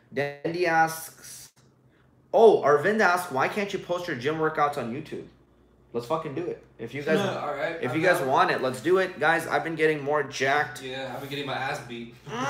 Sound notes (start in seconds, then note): 7.3 laughs